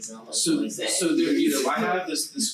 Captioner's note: group chattering